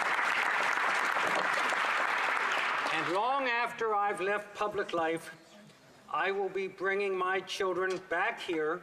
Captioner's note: applause